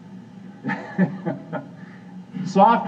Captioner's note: chuckle chuckle